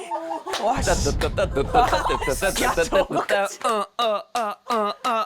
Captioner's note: jaw-dropping sound effect